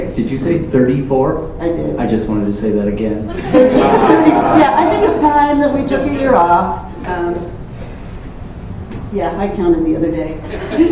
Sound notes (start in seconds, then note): 3.3 laughter